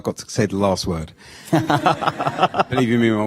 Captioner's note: laughter